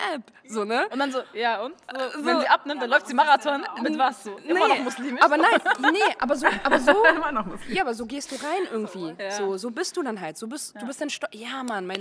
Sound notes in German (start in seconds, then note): 5.0 Gelächter